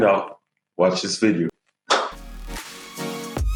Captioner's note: clap